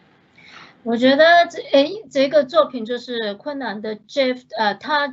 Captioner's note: Mandarin